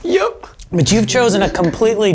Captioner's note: in puppet voice